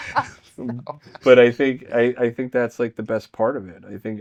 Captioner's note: laughing